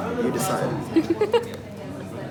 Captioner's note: laughter